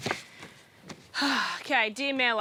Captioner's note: sighs